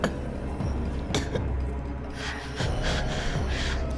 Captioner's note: Claire gasping